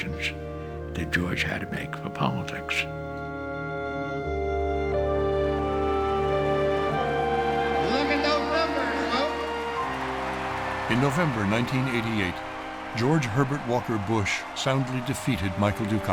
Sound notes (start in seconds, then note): 9.0 audience cheering and applauding